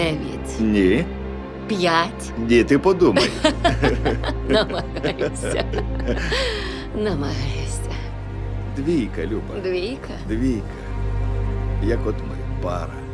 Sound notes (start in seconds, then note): 3.1 both laughing